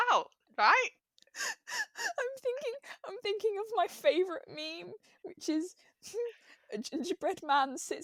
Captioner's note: laughing breathlessly